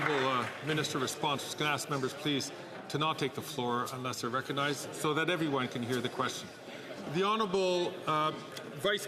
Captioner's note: some Applause